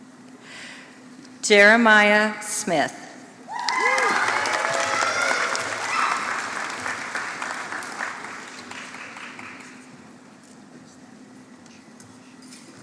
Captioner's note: applause